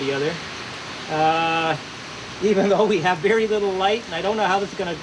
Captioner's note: chuckles